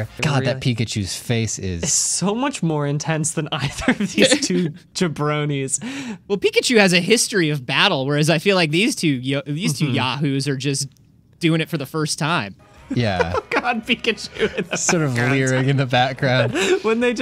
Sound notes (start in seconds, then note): 12.9 laughing